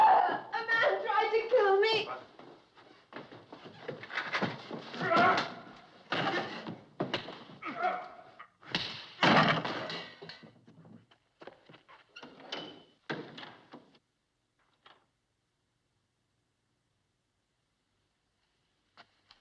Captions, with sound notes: - A man tried to kill me! - What? [ Grunting ] - [ Both Grunting ] - [ Blows Landing ] - [ Grunting Stops ] - [ Blows Stop ]